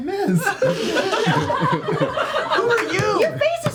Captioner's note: laughter